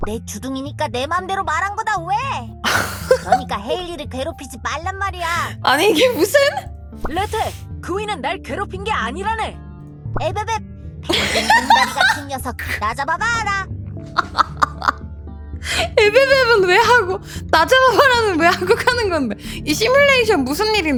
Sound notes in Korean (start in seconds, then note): 11.1 웃음